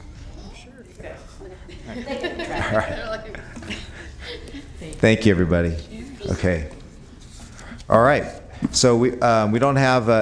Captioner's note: laughter